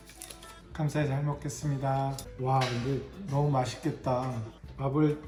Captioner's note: Appa speaks Korean